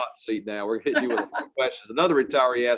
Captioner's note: chuckling